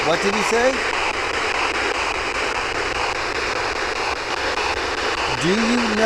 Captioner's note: electronic static hissing